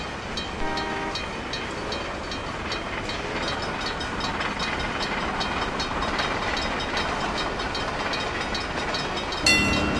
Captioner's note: chuffing in the distance; wig wag ringing